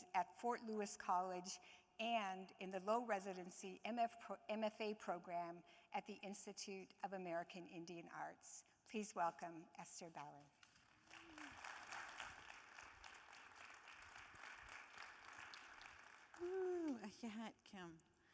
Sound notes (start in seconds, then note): 10.7 audience applauding